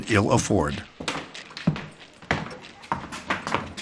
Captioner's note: feet shuffle